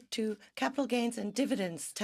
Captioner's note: speaking in French